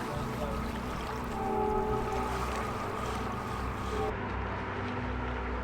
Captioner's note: train whistle